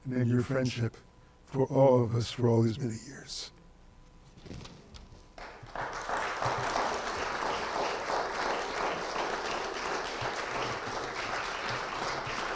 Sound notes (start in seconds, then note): 5.4 audience applauding